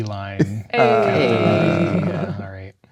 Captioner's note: players groaning